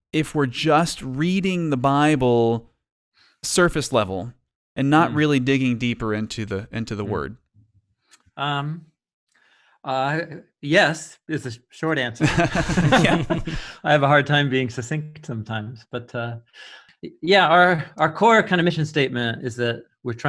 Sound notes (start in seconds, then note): 12.2 men laughing